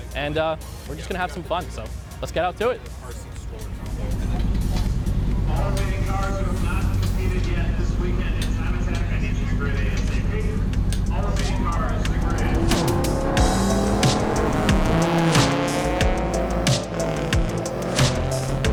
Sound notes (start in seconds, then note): 12.9 bright music; 12.9 engine revving